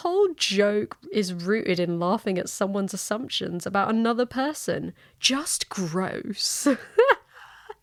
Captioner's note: laughs